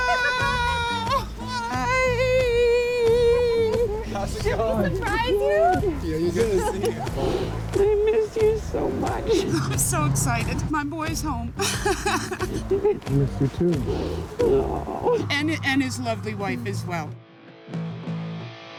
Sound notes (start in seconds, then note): 12.4 laughs; 13.1 sniffs